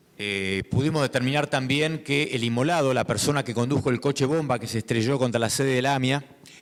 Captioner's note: speaking in foreign language